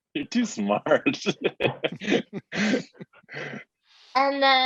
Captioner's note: chuckles